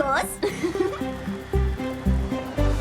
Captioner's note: giggles